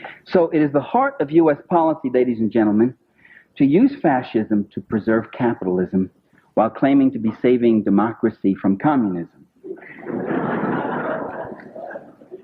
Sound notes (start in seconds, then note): 9.7 laughter